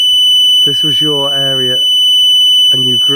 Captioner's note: beeping